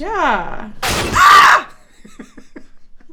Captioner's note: screams